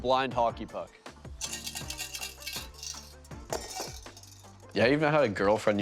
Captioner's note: rattling